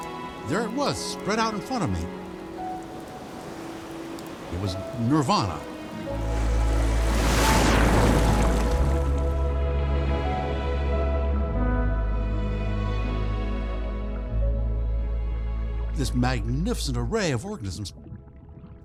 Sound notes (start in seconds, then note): 6.4 waves rumbling